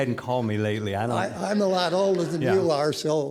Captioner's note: audience laughing